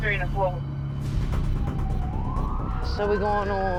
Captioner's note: siren wailing